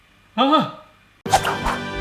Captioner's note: exclaiming; triumphant music